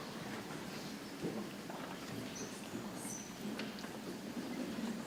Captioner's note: people chattering softly